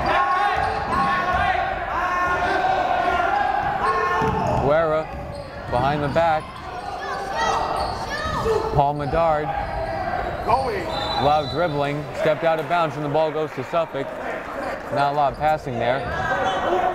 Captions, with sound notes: Guerra, behind the back. Paul Medard. (whistle blowing) A lot of dribbling, stepped out of bounds, and the ball goes to Suffolk, not a lot of passing there.